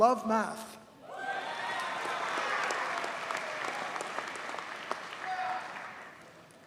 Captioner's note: audience cheers and applauds